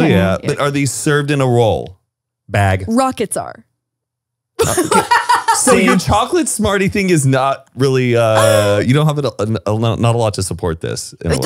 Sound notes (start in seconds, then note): 4.6 laughs